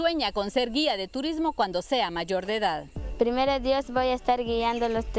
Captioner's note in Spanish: habla en otro idioma